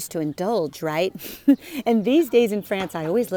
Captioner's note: chuckles